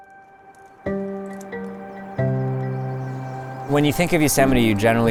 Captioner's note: breeze hissing